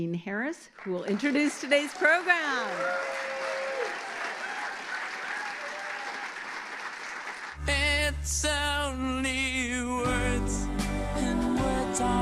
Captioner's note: applause